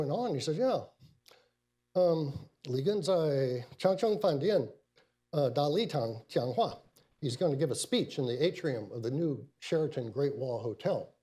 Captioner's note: speaks in Mandarin